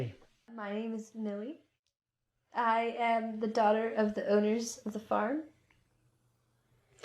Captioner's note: none